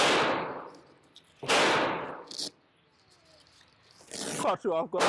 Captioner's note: gunshot booms; gunshots booming drowns out